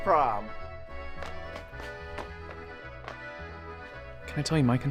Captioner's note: jaunty upbeat music; footsteps tapping